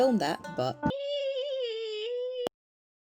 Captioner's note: terrible beeping television impersonation